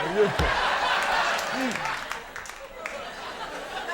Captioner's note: audience laughing